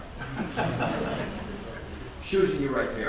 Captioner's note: audience laughs